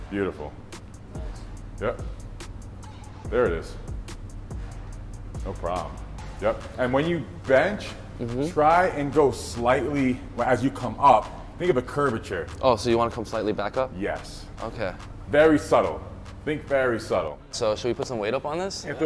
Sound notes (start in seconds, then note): none